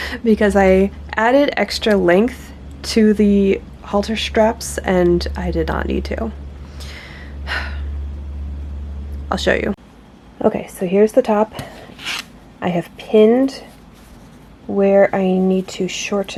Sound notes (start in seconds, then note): 6.8 short sigh